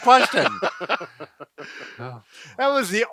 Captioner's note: men laughing